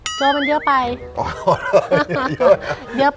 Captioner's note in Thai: หัวเราะ